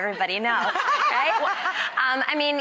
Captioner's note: audience laughter